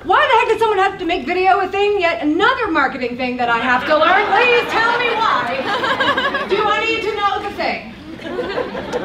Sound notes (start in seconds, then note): 5.5 laughs